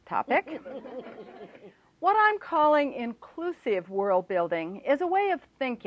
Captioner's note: laughter